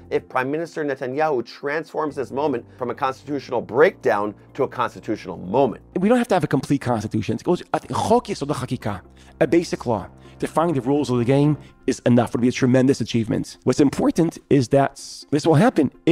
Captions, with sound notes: if Prime Minister Netanyahu transforms this moment from a Constitutional breakdown to a Constitutional moment. - We don't have to have a complete Constitution. (speaking Hebrew) A Basic Law defining the rules of the game is enough, it's a tremendous achievement. What's important is that this will happen